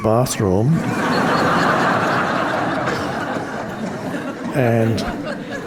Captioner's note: audience laughing